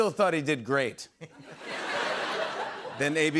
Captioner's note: laughter